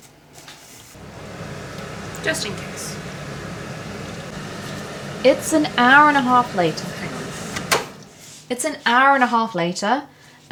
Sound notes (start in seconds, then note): 0.9 turns extractor fan back on